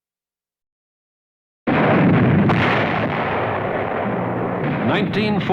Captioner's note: cannonfire